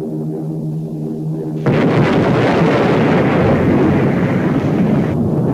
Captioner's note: explosion booming